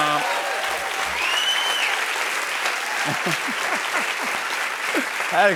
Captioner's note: cheers and applause